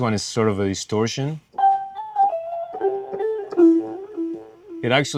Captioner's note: tones playing